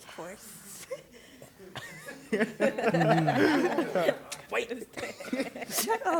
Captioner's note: laughter